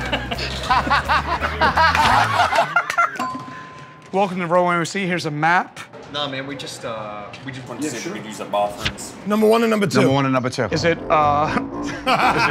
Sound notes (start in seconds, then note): 0.0 laughter; 3.1 bell dings